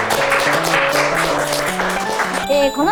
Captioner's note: applause